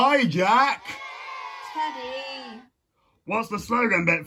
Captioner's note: crowd booing